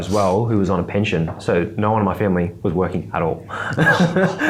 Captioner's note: laughs